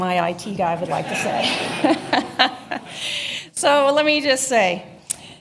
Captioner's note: laughter